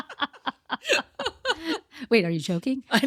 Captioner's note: laughing